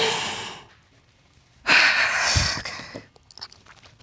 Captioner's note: exhales; sobs